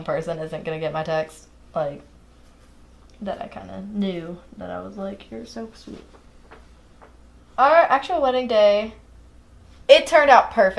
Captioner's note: whispering